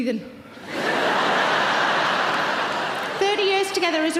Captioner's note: audience laughs